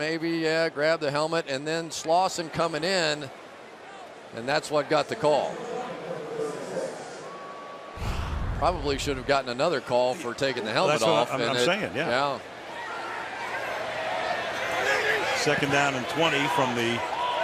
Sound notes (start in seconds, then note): 0.1 announcer on loudspeaker; 8.6 players shouting